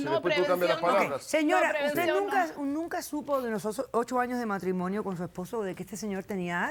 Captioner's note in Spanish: Hablan al unísono